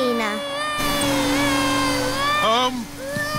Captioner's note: crying